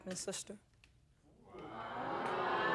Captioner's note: audience exclaiming